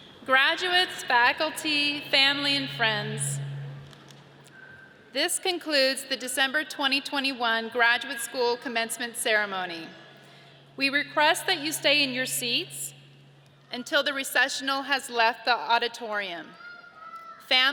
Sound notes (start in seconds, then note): none